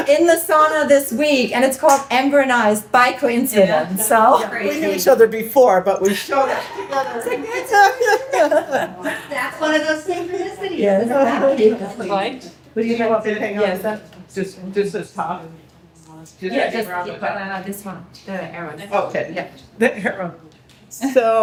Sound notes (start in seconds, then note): 3.9 person laughs; 11.2 people laugh